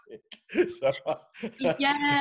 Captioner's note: both laugh